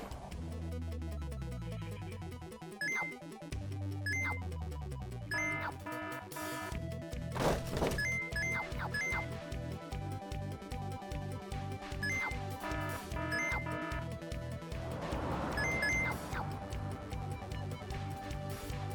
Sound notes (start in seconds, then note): 0.6 game music; 5.3 alarm ringing; 7.6 game music; 12.0 alarm ringing; 14.7 game music